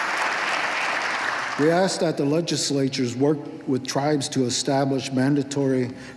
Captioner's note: applause